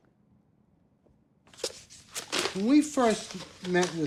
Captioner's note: rustling sound